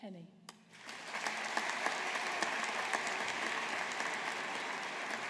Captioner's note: audience applauding